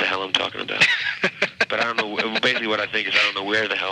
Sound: laughing

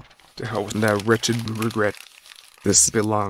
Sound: paper crumpling

